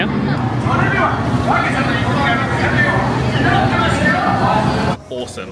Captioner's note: character speaking in Japanese